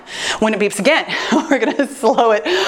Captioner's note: chuckles